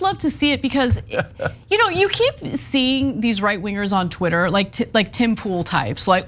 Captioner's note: laugh